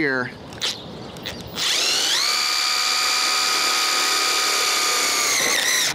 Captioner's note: screwdriver whirring